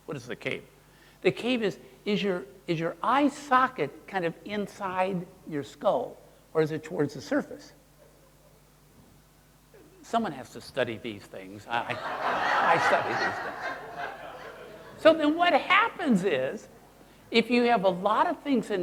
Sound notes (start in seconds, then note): 11.8 audience laughing